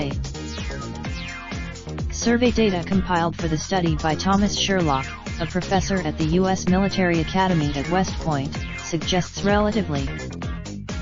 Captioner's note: Russian